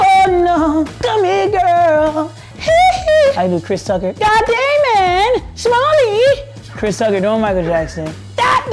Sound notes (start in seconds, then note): 2.5 imitating Michael Jackson; 5.0 imitating Chris Tucker